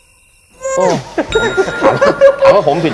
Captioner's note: silence; laughter